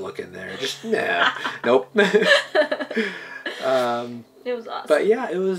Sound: laughing

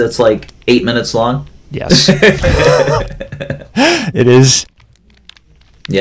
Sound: laughter

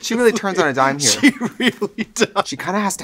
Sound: laughing

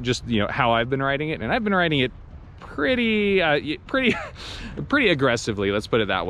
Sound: laughs

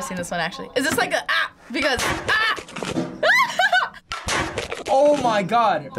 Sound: laughs

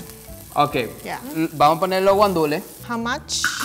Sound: speaking in foreign language

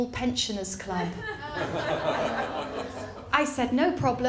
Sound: laughter

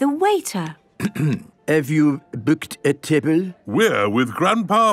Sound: clears throat

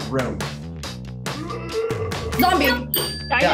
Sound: Jaren groaning

